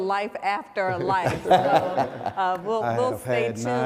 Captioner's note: laughing